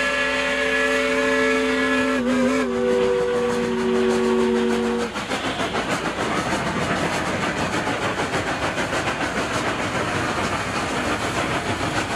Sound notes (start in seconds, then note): 5.0 train whirs